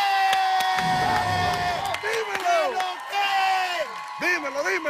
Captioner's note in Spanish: grita